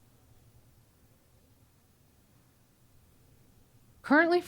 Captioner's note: silence